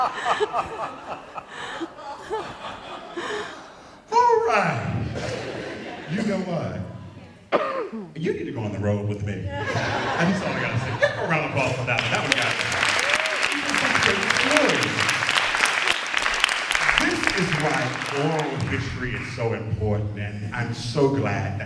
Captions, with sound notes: [Laughter] So... [laughter continues]. >> All right. You know what? You need to go on the road with me [laughter], I just got to say, give a round of applause for that. That was-- [ Applause ] >> This is why oral history is so important, and I am so glad